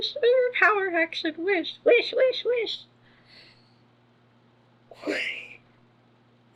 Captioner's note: laughs